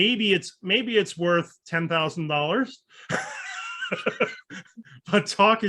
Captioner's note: chuckles